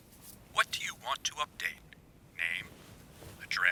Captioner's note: voiceover